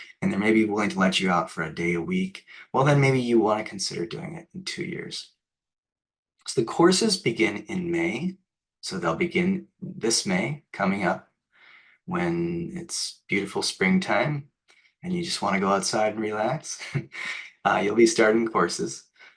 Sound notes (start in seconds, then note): 16.7 laughs